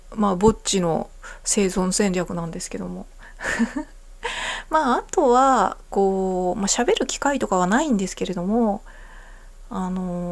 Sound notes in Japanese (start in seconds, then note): 3.4 笑い